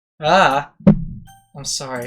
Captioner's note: atomic bomb going off in background